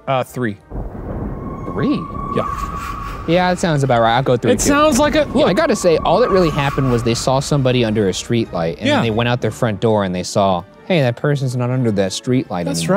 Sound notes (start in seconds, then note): 2.7 crows cawing